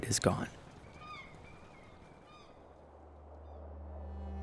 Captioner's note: wind rustling; bird squawking